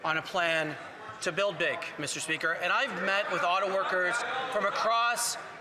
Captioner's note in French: voix de l'interprète